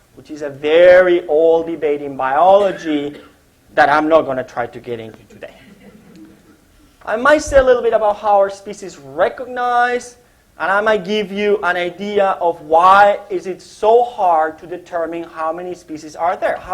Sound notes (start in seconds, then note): 5.5 laughter